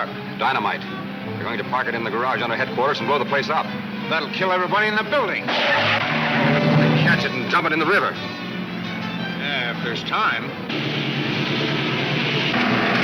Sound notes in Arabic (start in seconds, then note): 4.6 اصوات صرير الاطارات; 9.4 موسيقى الأوركسترا المثيرة